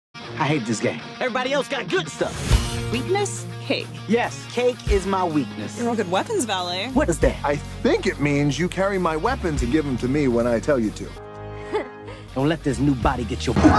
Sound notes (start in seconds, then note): 11.6 giggling